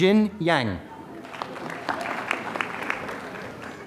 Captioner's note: applause